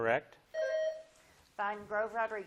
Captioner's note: buzzer blips